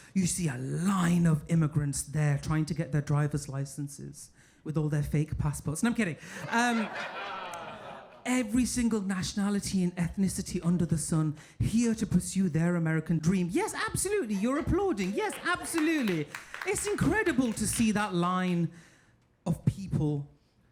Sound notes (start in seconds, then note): 6.4 audience laughing; 16.2 audience applauding